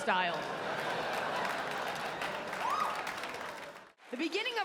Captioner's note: audience laughs and claps